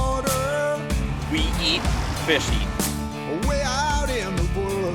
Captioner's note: voiceover